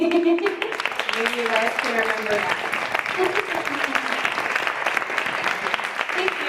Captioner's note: Aplaudiments